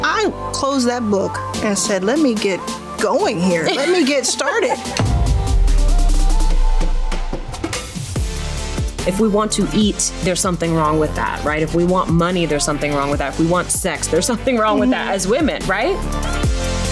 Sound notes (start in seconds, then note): 3.4 laughs; 5.4 upbeat music